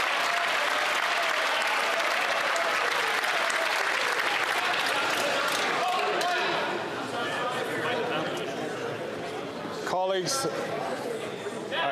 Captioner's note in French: applaudissements